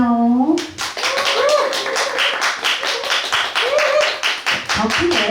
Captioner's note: applause